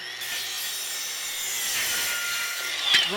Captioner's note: saw whirrs